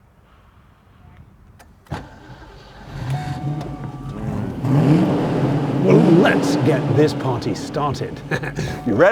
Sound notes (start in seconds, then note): 1.4 car engine starts; 8.4 laughs